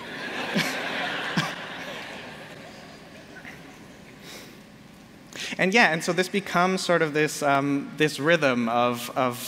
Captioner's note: laughter